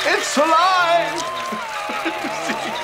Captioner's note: middle age laughter